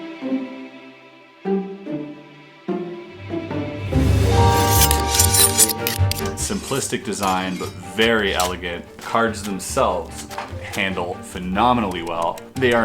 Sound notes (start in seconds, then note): 0.2 lively music; 3.2 metal scraping